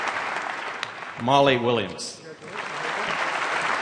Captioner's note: applause